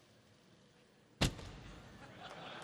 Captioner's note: laughter